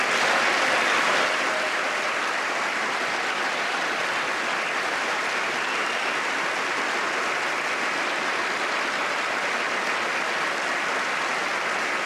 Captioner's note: applause